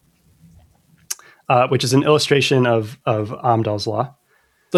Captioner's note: uh